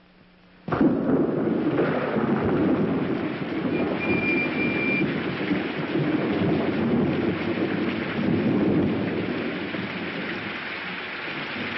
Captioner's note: thunder